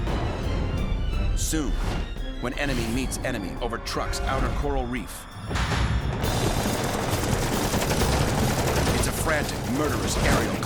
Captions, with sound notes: Soon, when enemy meets enemy over Truk's outer coral reef-- [shooting] --it's a frantic, murderous aerial clash.